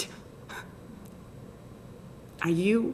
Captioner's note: scoffs